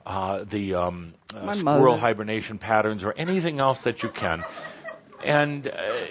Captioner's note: laughter